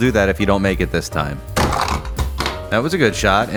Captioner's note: bonk!